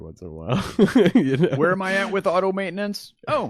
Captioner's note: laughs